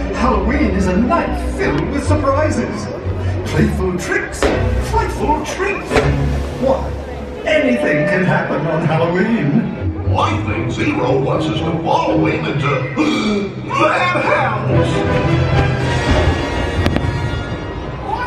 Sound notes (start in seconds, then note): 13.0 gasps; 14.5 dramatic music; 15.2 fireworks banging